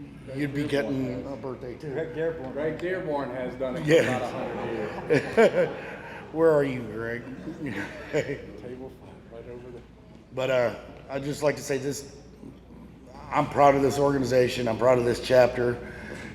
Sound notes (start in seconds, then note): 3.8 laughs; 7.7 chuckles